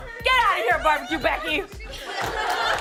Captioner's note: laughter